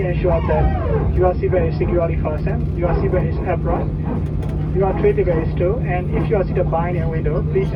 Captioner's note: cabin crew on PA, speaking English about flight info; sound of some aircraft parts faintly heard